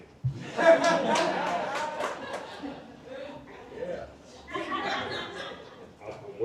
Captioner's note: laughter